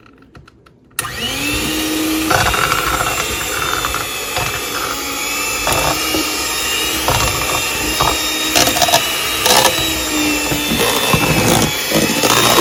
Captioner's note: whisking up potatoes with electric hand mixer